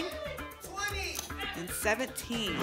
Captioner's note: audience shouting numbers